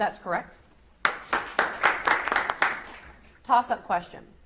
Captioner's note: audience applauds